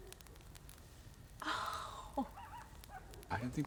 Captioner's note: distant howls